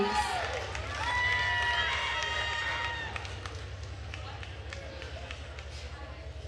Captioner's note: attendees cheering and applauding